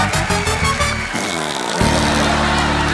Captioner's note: blows raspberry